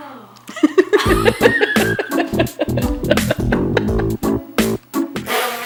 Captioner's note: both laughing